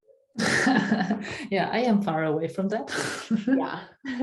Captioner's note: laughing